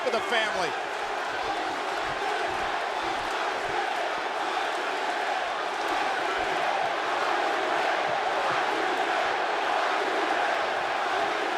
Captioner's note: applause